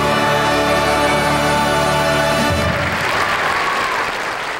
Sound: applause

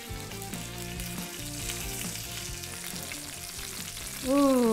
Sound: pan sizzling

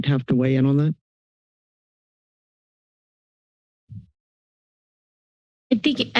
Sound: silence

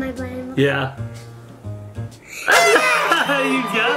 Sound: horn toots

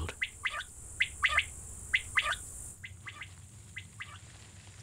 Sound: quail chirps

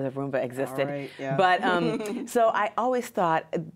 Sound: laughs

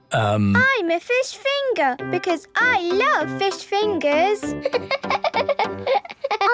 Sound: laughing

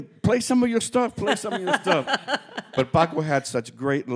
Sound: laughing

